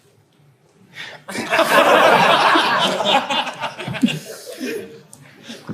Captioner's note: audience laughs